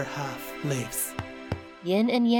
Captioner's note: pat pat